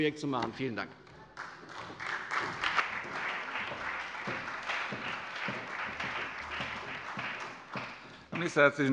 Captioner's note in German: Beifall bei der CDU und dem BÜNDNIS 90/DIE GRÜNEN